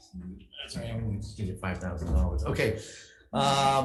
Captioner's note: chuckles